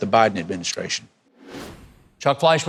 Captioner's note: transition whooshing